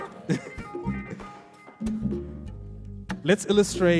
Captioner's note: laughs